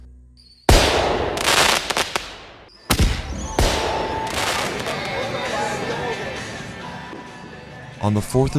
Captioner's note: explosions